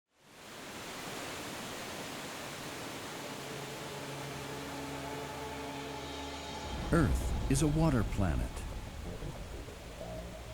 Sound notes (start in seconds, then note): 0.3 waterfall splashing; 4.0 dramatic music